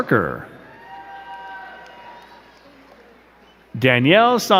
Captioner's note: crowd cheering and clapping